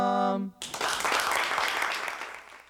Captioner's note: song ends; applause